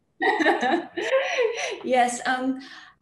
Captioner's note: laughs